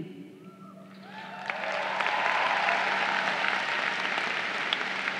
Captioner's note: crowd cheering